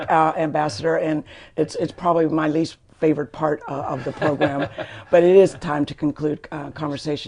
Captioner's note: laughter